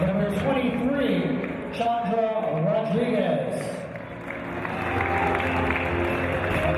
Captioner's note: applause